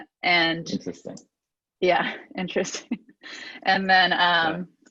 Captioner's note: laughs